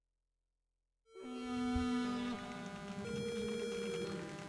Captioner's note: computer booting up